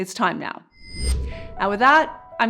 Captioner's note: whooshing